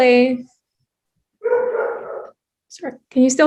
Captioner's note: dog barking